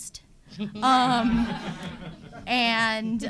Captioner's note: audience laughing